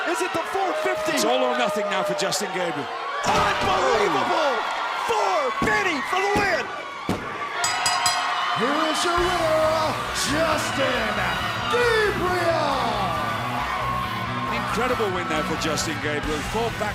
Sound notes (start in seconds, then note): 9.6 bell ringing